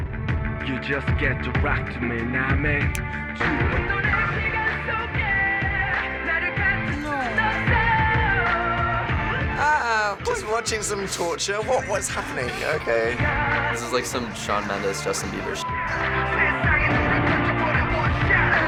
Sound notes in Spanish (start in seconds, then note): 2.8 cantando convincente hip hop en coreano; 15.4 pitido